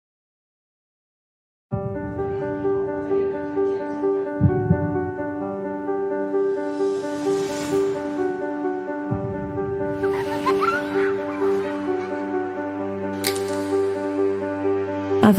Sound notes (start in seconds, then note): 2.1 soft instrumental music; 10.0 kids laughing; 12.3 soft instrumental